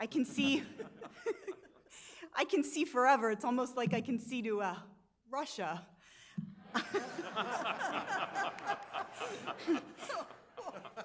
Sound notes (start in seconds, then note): 1.0 laughs; 6.6 audience laughs